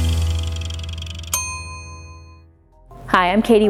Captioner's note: bell dings